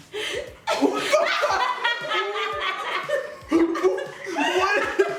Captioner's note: laughter